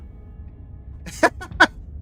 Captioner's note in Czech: smích